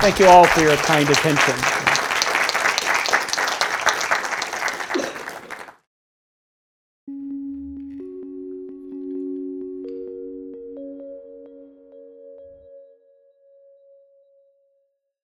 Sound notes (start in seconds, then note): 1.8 attendees applauding; 7.1 gentle music